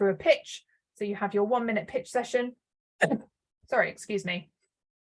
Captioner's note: coughs